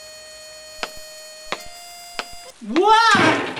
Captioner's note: high heels clacking on floorboards; trash cans banging